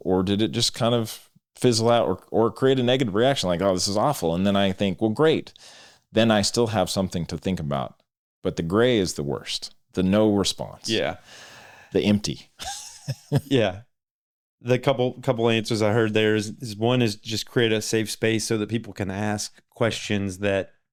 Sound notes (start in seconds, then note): 12.6 laughs